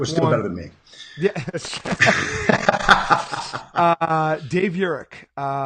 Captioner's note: laughing